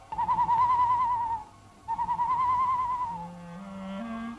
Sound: hoots

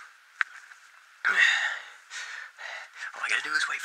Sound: heavy breathing

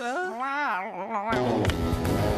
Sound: emphatic Meow

